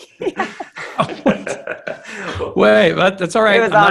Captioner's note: laughing